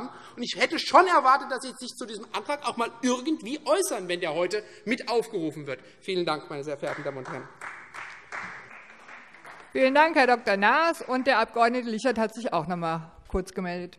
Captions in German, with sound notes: Ich hätte schon erwartet, dass Sie sich zu unserem Antrag äußern würden, da er vorhin mit aufgerufen worden ist. - Vielen Dank. [Beifall Freie Demokraten und vereinzelt SPD] Vielen Dank, Herr Dr. Naas. - Der Abg. Lichert hat sich noch einmal zu Wort gemeldet.